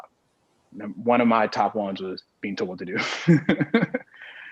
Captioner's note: laughs